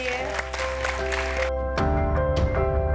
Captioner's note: audience applauding; bright music